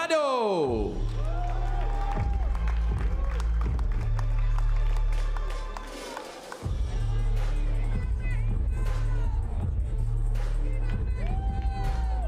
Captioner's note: applause